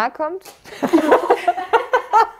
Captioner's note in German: Gelächter